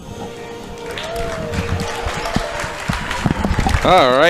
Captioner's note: cheering